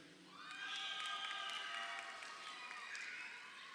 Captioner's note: crowd cheering